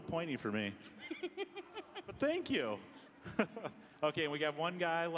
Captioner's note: laughing